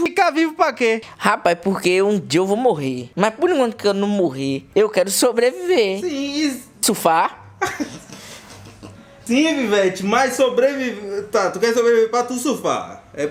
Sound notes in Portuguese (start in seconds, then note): 7.6 risadas